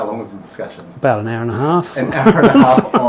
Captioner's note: laughing